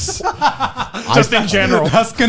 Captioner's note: laughing